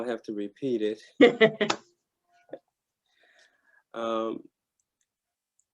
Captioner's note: laughing